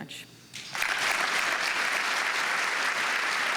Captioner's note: applause